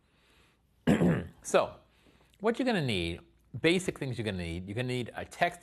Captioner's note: cough